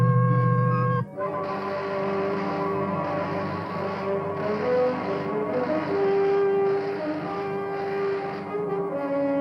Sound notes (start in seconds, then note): 1.2 zapping